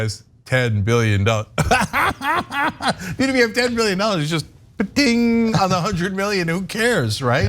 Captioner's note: laugh